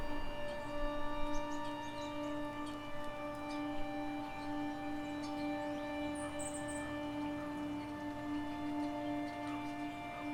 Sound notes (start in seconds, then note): 0.0 birds chirping; 0.0 light music